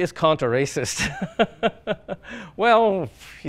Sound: laughs

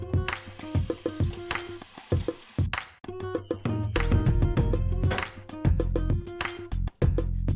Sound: running water

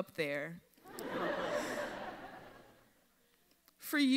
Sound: audience laughs

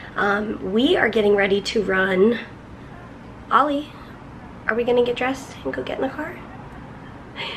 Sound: none

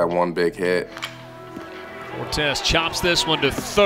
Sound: bat hits ball

